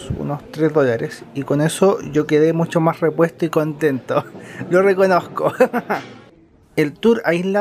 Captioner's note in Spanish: risas